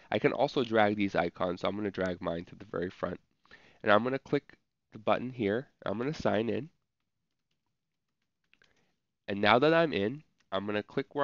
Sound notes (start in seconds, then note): 7.2 typing